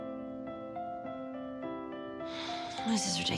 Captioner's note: sighs